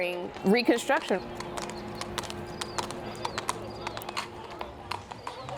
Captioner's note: horse hooves clip clop